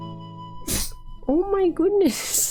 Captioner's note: sneeze